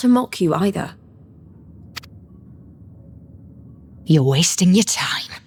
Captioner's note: footsteps